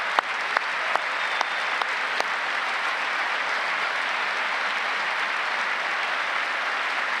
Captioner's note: applause